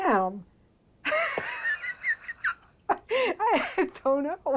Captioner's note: laughing